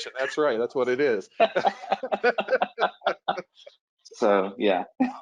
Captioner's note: laughs